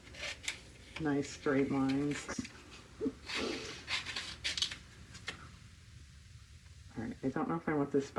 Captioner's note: laughs